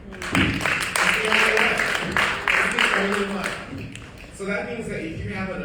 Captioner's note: audience applauding